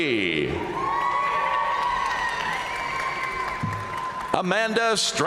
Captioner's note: audience cheering and applauding